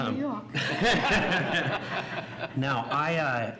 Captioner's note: laughs